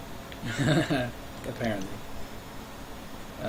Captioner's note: chuckling